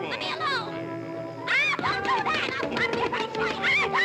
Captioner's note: feet thudding